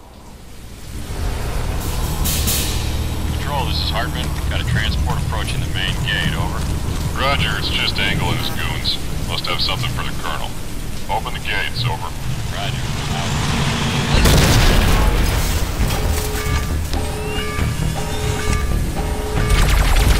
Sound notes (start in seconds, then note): 12.6 truck guns engine; 16.6 klaxon sounds